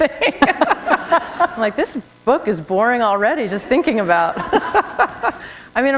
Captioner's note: laughter